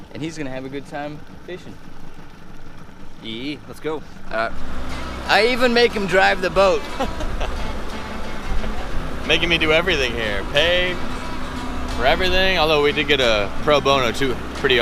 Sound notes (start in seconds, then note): 6.8 laughter; 8.3 guitar music